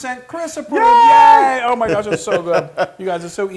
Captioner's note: laugh